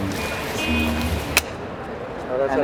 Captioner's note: smacks hands together